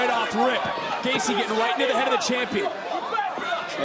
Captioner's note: crowd barks